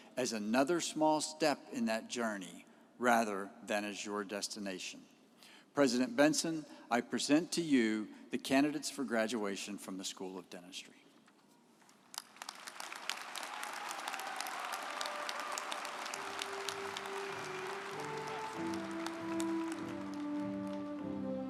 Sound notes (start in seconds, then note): 12.4 audience applauding; 17.8 instrumental music